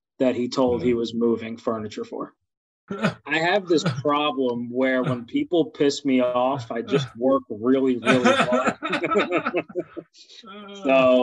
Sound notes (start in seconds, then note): 2.9 laughs; 7.9 both laughing